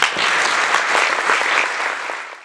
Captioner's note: applause